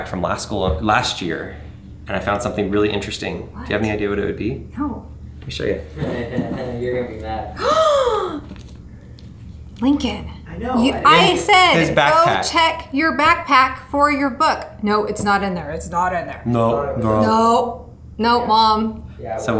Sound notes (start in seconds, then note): 6.0 laughs; 7.6 gasps